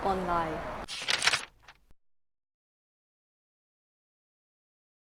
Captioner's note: paper crumpling